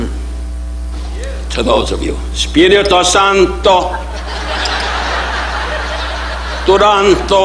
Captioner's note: speaking foreign language